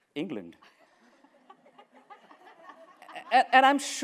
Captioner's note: laughter